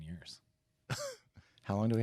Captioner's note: laugh